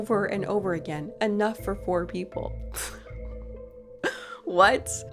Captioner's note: laughs